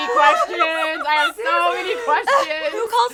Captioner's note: laughs